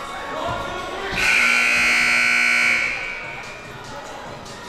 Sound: siren buzzing

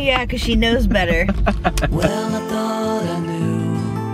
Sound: chuckle

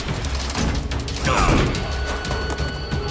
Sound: grunting; grunting

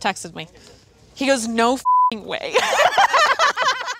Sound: beep; both laughing

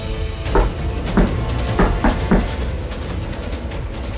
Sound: thumping

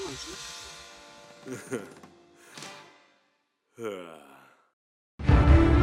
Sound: he chuckles, sighs

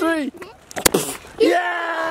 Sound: kicking noise

